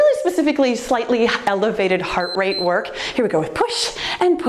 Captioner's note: timer beeps